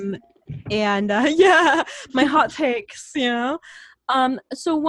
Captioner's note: laughs